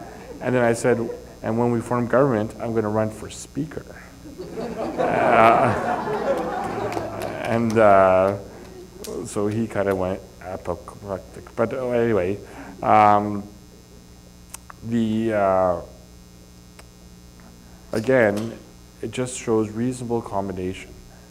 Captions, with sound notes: and then I said, "And when we form Government, I'm going to run for Speaker." [Laugher and applause] So he kind of went apoplectic. Again, it just shows reasonable accommodation.